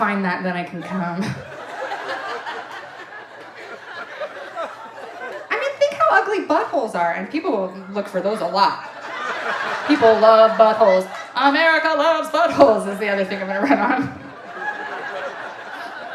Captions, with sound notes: "I just gotta find that then I can cum." (audience laughing) I mean, think how ugly butt holes are and people look for those a lot, people love butt holes. America loves butt holes is the other thing I'm gonna run on.